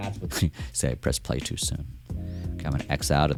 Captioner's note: chuckles